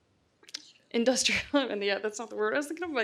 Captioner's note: exhales